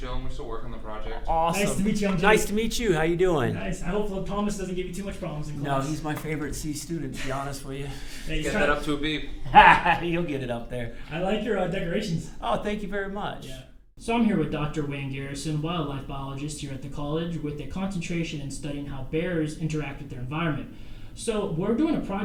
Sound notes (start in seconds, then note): 9.4 laughs